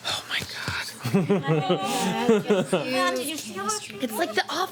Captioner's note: laughing